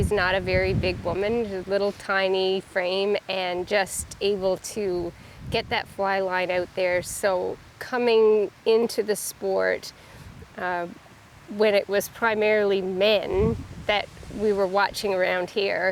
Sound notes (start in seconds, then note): 12.1 river gurgling